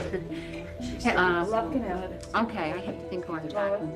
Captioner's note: chuckles